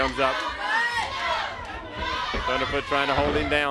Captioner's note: crowd chatter